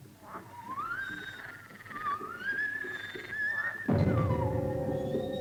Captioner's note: animal croaking; suspenseful music